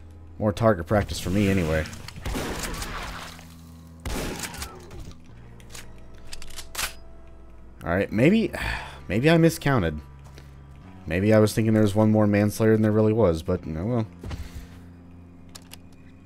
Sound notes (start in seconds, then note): 3.3 snarl, boom; 8.5 sigh